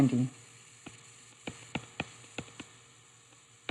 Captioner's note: silence